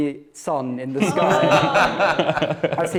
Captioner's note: oohs and laughter